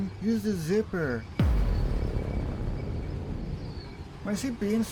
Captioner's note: cinematic boom